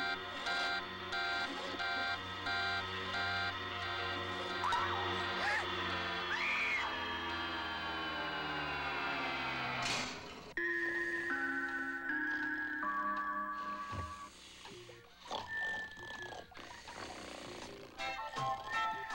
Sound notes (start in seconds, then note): 6.2 screaming; 9.9 clock strikes the hour; 15.2 still snoring